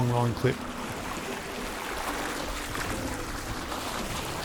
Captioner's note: water splashing